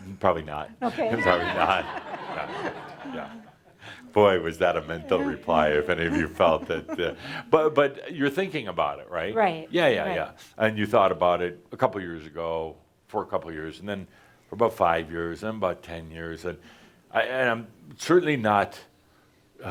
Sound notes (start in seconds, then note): 3.4 laughter